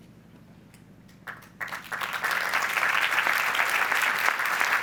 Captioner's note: audience applauds